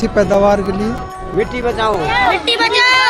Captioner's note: cheering/Applause